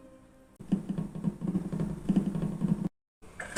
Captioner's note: walking